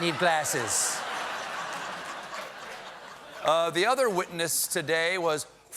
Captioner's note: laughter